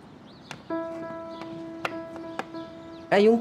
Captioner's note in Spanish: Canto de diversas aves